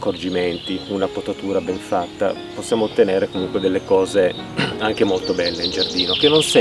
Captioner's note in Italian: schiarire la voce